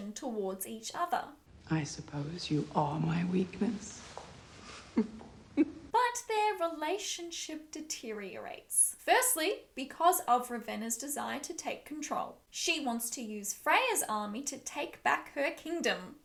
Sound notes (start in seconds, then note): 5.5 laughs